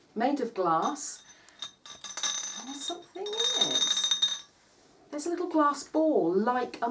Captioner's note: bottle rattling